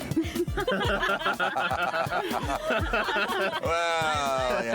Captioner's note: laughing